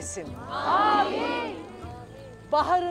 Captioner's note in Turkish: Hep bir ağızdan